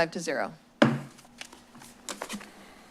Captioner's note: gavel tap